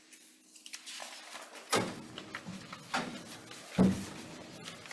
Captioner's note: papers rustling